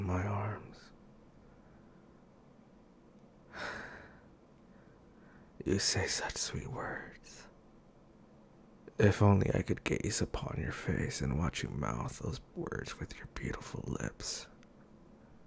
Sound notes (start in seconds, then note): 0.0 A beat; 3.5 with a loving sigh; 14.8 A beat